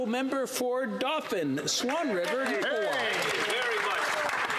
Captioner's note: speaking French